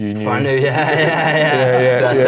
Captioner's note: giggles